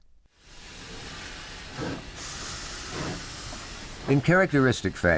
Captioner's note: steam train sounds